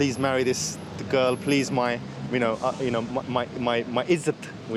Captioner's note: speaking in foreign language